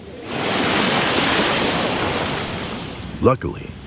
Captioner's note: waves rushing